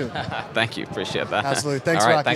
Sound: laughs

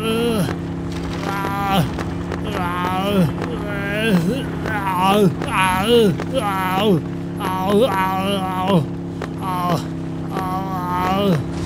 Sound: SFX of suffering

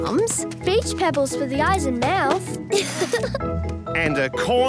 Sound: laughing

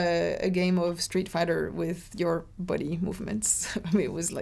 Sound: laughs

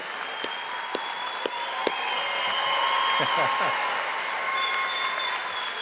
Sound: audience applauding and cheering

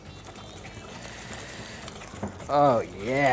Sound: whisking

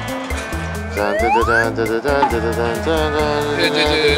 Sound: starts humming

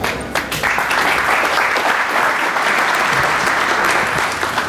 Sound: audience applauding

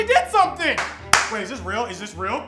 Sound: person clapping

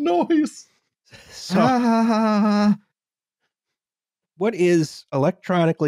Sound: aaahaaahaaahaaahaa

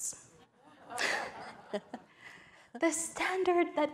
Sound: audience laughing

